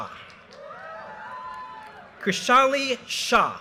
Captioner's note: audience cheers and applause